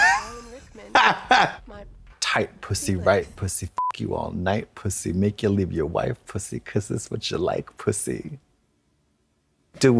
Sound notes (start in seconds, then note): 0.0 Trixie har-hars; 3.8 beep